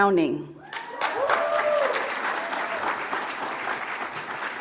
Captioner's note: audience applauds